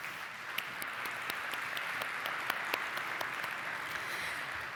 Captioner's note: audience applauding